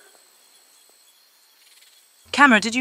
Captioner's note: snake noises